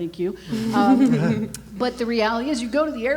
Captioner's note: laughs